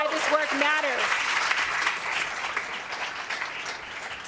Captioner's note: applause